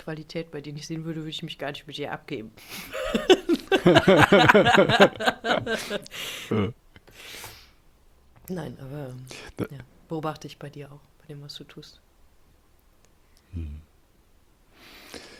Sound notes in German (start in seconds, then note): 7.4 gelächter